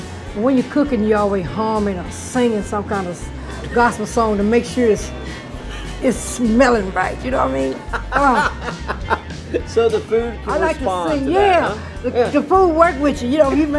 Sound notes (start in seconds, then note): 8.2 laughing